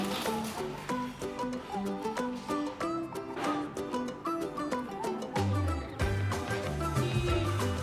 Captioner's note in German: lacht